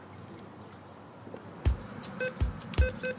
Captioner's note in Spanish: Bip